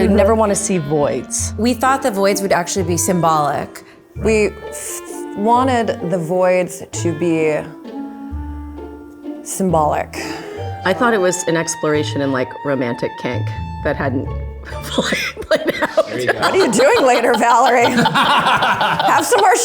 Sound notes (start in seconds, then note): 15.0 laughs; 18.6 everyone laughs